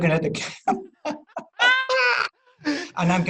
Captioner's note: chuckling